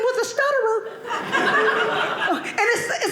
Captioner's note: audience laughing